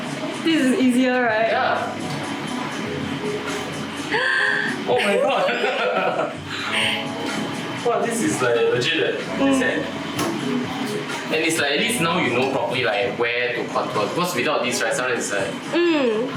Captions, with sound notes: this is easier right yeah *gasp* omg *laughter* wow this is like legit eh this hack and it’s like at least now you know properly like where to contour because without this right sometimes it’s like